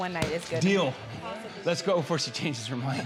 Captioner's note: slaps thigh